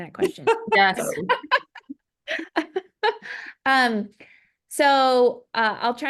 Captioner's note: laugh